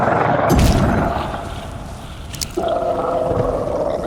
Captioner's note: flames hissing